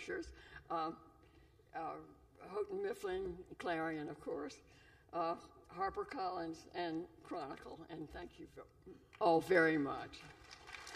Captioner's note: applause